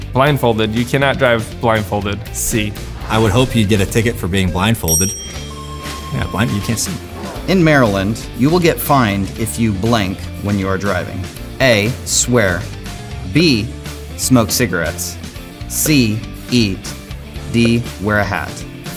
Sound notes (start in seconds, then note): 4.8 bell ringing; 5.1 upbeat music